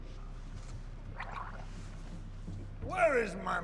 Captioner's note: gargles